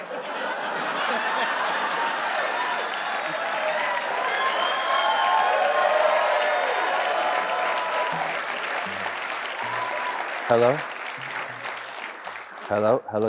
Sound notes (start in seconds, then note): 0.0 laughter